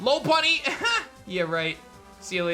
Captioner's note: chuckles